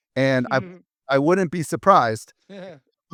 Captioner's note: laughs; laughs